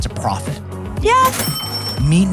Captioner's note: cash register chimes